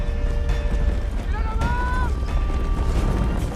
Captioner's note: man yells in arabic